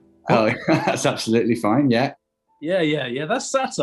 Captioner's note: laughing